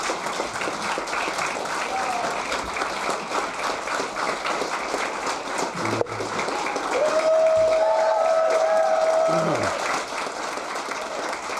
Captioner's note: applause